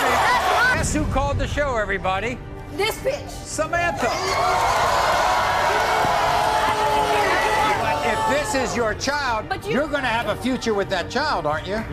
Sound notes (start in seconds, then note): 4.0 audience cheers